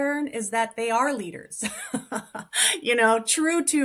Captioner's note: laughs